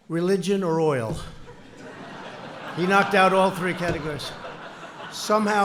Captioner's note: laughter